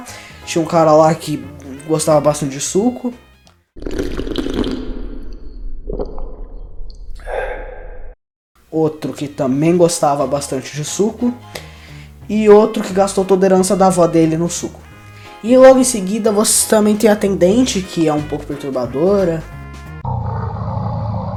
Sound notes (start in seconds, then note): 3.8 sips very loudly